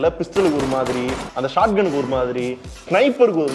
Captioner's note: none